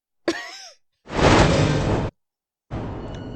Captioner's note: silence; laughs; whoosh